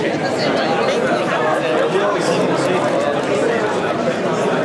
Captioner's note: crowd chatter